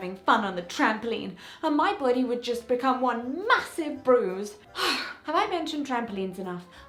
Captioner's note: sigh